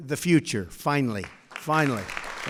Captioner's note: applause